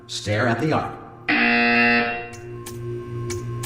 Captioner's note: extremely loud incorrect sound